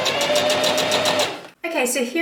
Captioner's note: sewing machine surges